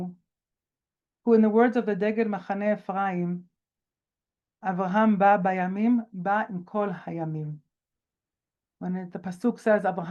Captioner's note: speaking Hebrew